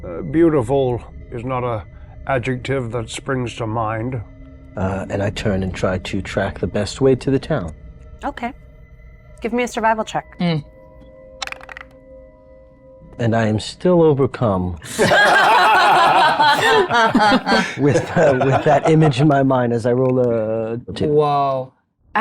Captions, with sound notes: Beautiful is not a adjective that springs to mind. - And I turn and try to track the best way to the town. - Okay, give me a survival check. (dice clink) - And I am still overcome (everyone laughs) with that image in my mind as I roll a two. - Whoa.